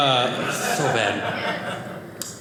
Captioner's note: audience laughing